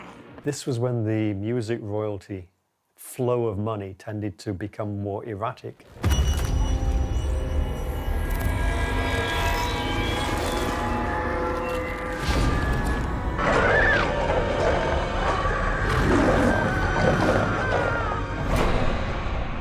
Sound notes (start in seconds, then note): 6.1 eerie music; 13.4 animal growling; 13.6 person screaming